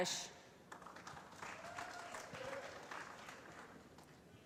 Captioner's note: applause